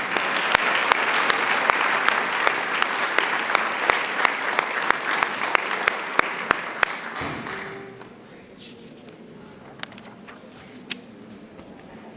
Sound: applause

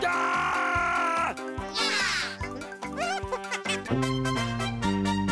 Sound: giggling

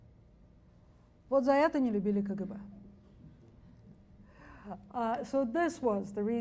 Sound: speaks foreign language

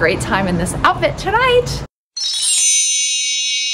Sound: chimes

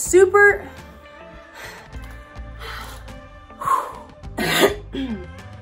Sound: exhaling; coughing

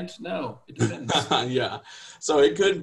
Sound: chuckling

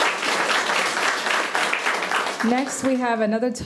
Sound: audience clapping

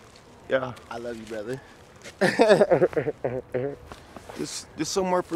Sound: laughs

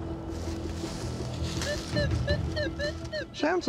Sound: beeping

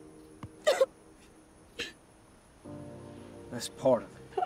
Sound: crying

